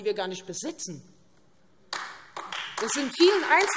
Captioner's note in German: Beifall